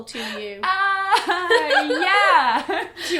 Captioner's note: both laugh